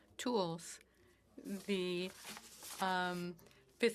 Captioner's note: speaking French